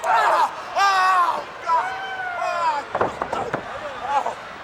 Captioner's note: Ric screaming